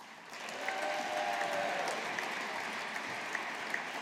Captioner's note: audience applauding